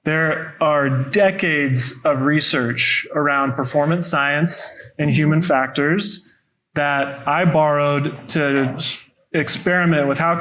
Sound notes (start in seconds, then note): none